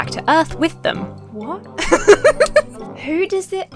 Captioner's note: laughs